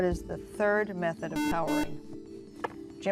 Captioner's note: buzzer